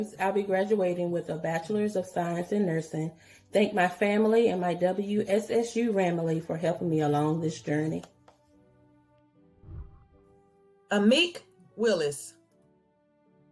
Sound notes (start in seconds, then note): 9.6 whooshing